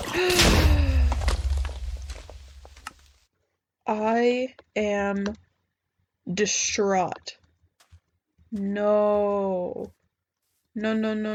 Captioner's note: random beating zombie noises; gasp